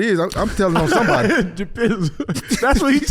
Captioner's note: laughing